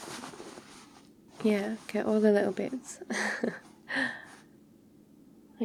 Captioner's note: laughs